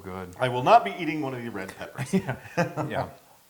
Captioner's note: laugh